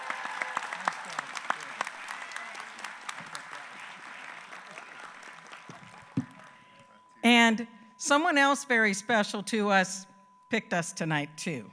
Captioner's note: applause